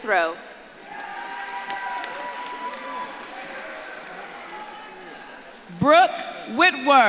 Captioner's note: audience claps and cheers